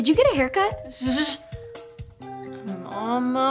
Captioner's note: hushing